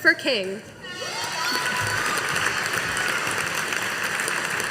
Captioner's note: audience applauding